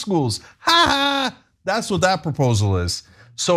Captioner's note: laugh